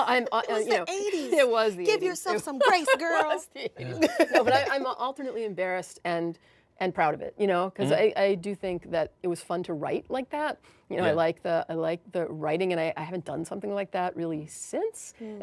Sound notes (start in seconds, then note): 0.2 laughs